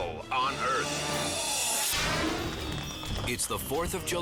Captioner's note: scene swooshing